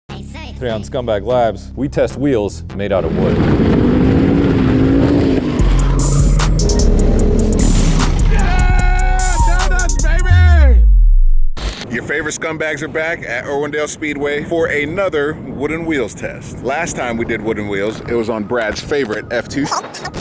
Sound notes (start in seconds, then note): 2.9 engine running